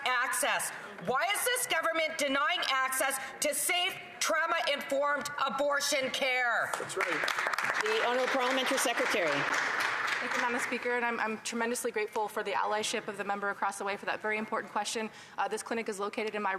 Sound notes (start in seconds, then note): 11.4 some Applause